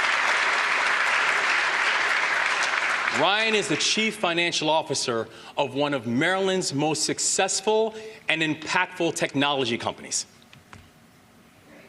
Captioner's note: applause